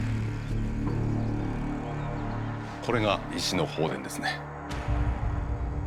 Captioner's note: speaking Japanese